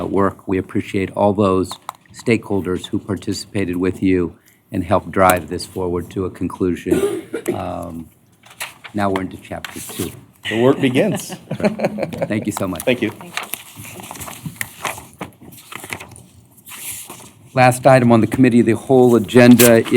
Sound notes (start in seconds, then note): 10.8 laughter